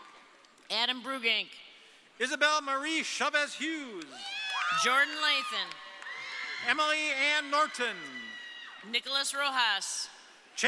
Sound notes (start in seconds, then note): 4.1 audience cheering